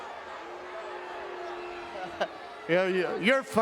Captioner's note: crowd booing